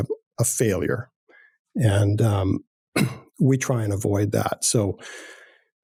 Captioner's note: clears throat